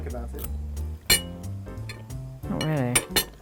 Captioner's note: fork clanking